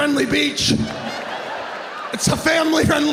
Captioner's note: audience laughing